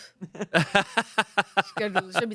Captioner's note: everyone laughs